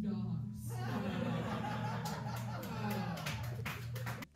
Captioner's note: laughter